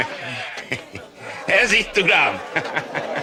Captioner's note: laughs